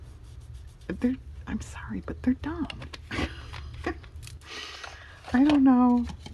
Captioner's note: laughs